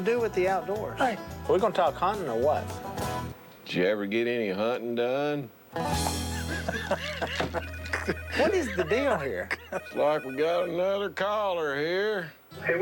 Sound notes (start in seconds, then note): 4.7 laughter; 7.6 phone ringing; 11.7 on phone